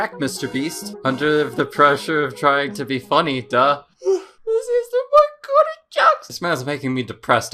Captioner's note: whimpers